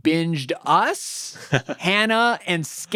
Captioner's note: laughing